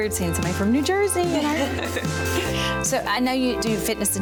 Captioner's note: laughing